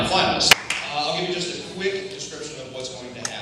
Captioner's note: slight clap